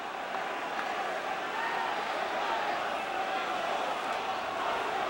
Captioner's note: crowd vocalizing